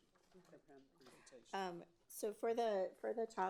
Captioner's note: speaks faintly